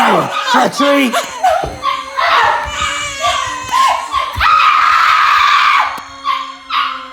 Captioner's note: screaming, Dog barking